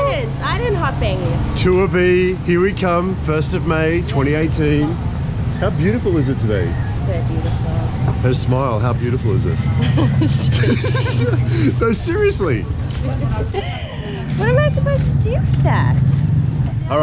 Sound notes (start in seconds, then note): 9.8 laughing